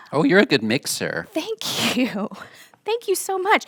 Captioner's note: laughs